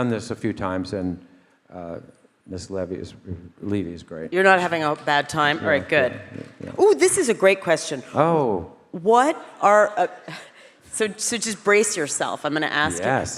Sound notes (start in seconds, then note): 6.0 Christopher mumbling